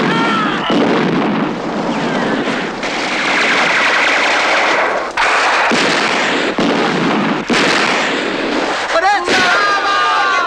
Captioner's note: screams and explosions